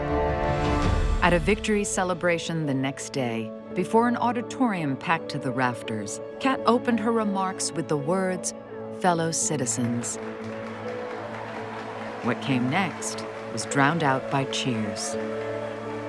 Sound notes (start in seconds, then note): 9.6 people cheering and applauding